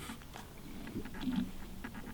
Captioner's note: camera focusing